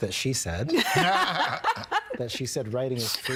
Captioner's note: all laughing